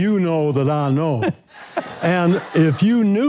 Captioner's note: crowd laughing